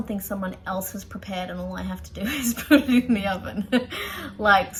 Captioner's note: laughs wryly